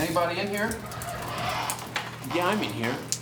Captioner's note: door squeaks